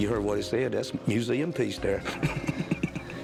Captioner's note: laughs